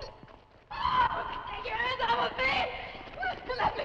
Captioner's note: screams